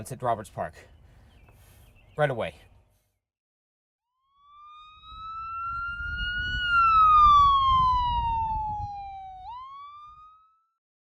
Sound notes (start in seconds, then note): 4.1 sirens blaring